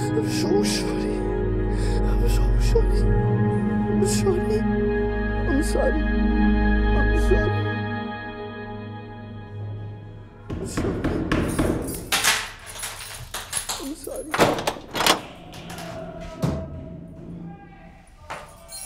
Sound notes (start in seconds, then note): 10.6 door banging, keys on metal; 14.2 prison cell opens